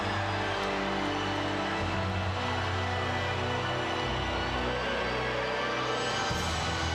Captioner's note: crowd cheering continues; somber music continues